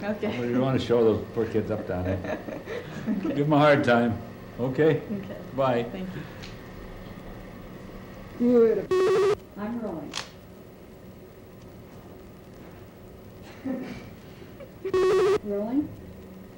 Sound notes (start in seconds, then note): 8.8 buzzing/beeping; 14.8 buzzing/beeping